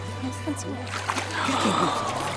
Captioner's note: gasping